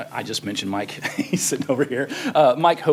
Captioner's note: laughter